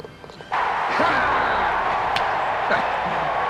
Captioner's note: crowd cheering